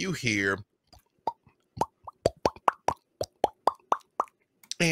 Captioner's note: lips popping